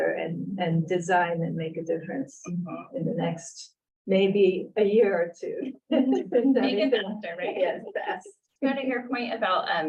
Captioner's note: laughter